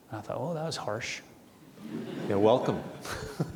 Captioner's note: audience chuckling